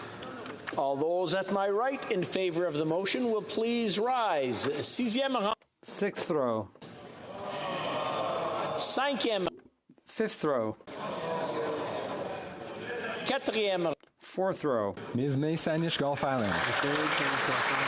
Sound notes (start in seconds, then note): 0.7 some Applause; 7.9 speaking French